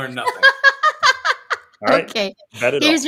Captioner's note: laughter